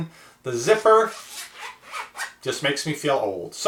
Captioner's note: zipping sound